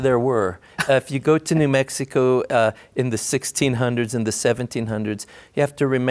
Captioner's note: laughter